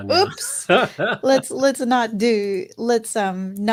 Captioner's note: laughs